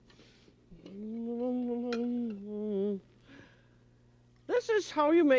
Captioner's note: singing; humming